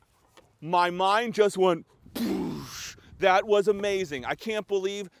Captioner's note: explosion